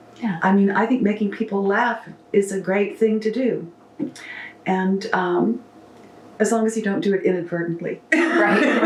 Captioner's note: laughs